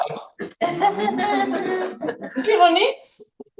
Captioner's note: laughter